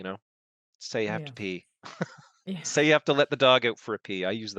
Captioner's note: laughs